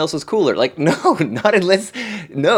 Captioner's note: laughs